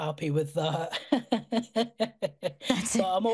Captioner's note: laughter